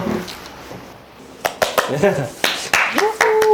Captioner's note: clap clap clap